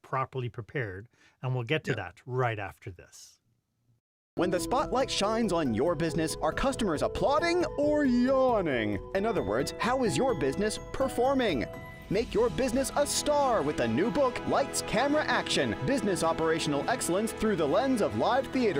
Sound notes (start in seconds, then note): 4.3 voiceover